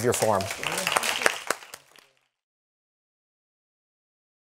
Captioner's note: applause